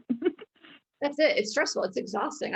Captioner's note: laughing